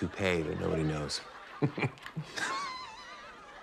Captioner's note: both laugh